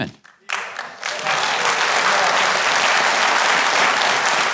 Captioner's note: audience claps